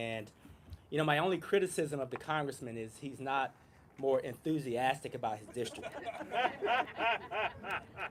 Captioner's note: laughter